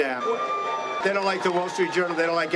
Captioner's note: crowd cheering